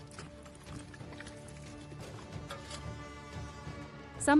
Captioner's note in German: Schritte